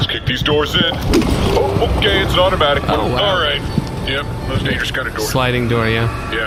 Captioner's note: swishes and crashes